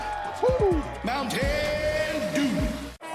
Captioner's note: people cheering